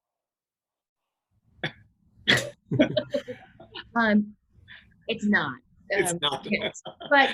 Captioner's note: all laughing